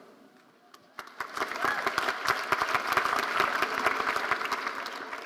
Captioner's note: audience applauding